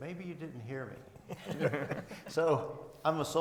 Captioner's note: all laughing